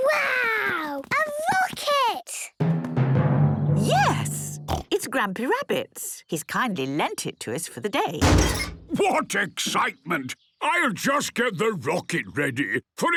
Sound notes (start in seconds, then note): 8.2 metallic door bursting